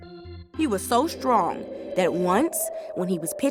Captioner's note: wind howling